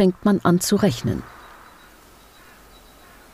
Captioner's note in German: Vogelgezwitscher